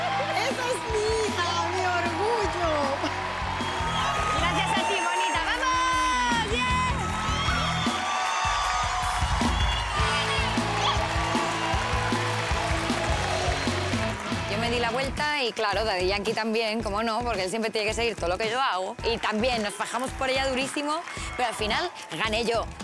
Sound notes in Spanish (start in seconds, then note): 6.9 gritos y exclamaciones